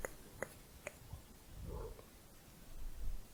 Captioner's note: blowing